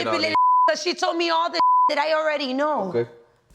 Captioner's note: beep